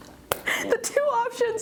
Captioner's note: laughing